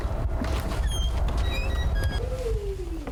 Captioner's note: door creaks